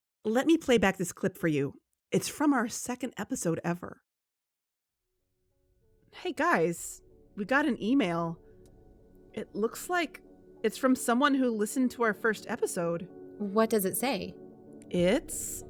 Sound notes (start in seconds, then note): 0.0 music pauses; 8.6 click